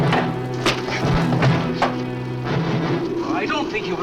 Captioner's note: fist thuds